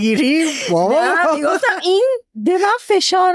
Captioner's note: laughs